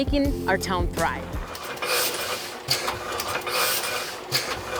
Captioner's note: machinery clacking